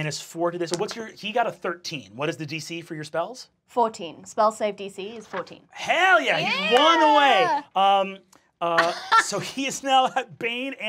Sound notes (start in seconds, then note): 8.7 laughing